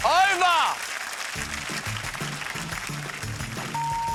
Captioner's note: applause